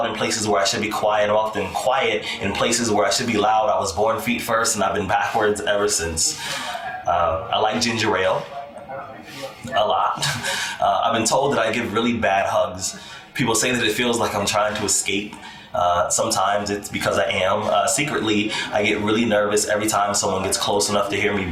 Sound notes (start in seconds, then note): 9.6 chuckles